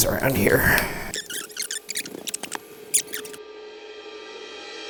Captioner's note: tape fast-forwarding